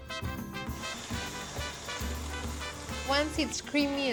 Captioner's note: whirring